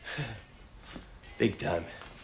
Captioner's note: chuckles